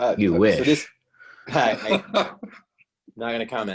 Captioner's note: chuckling